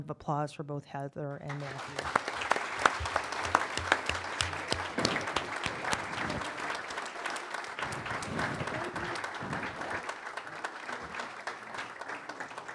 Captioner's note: applause